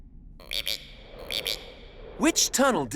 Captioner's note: frog